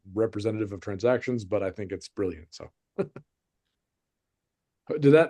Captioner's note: chuckles